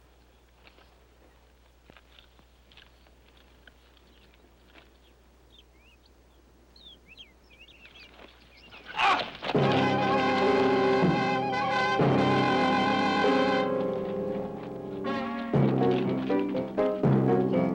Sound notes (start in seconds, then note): 4.3 birds chirping; 9.5 intense orchestral music